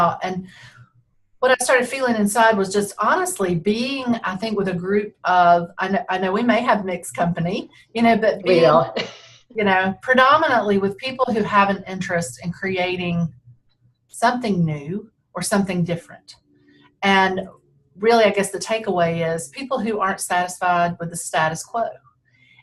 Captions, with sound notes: and what I started feeling inside was just honestly being, I think, with a group of, I know we may have mixed company. - We are. (laughs) - You know, predominantly, with people who have an interest in creating something new or something different, and really I guess the takeaway is, people who aren't satisfied with the status quo.